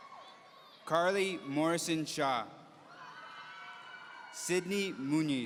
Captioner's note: audience cheering; audience cheering